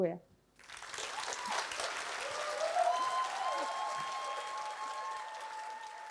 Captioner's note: applause